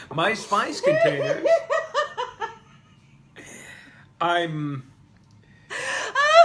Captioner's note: laughing so hard she's falling over